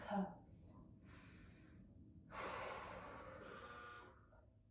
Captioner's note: breathing deeply